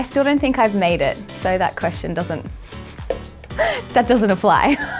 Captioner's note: laughs